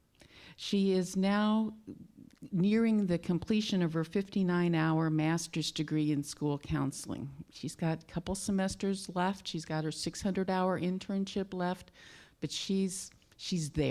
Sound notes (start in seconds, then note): none